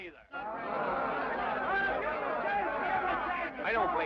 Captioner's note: men chatter